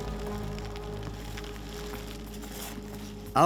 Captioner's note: rain poncho crackles